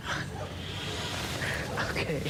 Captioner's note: distant barking